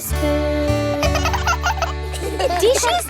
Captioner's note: both laugh